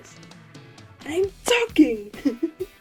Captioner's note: small laugh